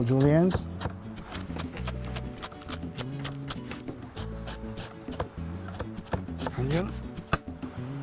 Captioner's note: chopping